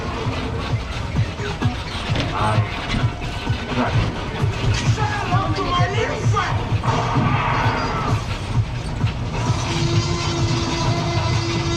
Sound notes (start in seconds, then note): 5.5 movie actor shouting; 6.9 dinosaur roaring